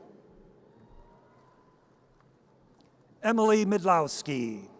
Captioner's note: audience cheers